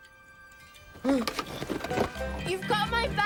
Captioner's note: gasps